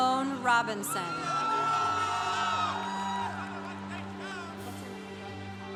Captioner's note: congregation applauding